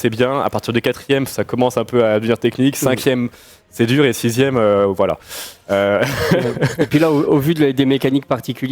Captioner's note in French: rires